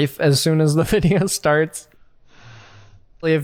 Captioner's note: chuckles